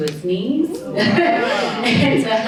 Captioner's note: audience cheering